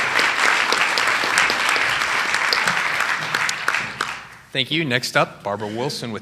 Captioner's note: applause